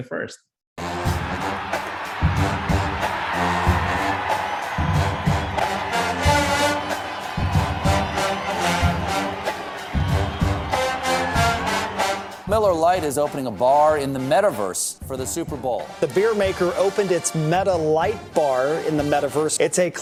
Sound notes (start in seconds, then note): 1.0 marching band music; 3.9 cheering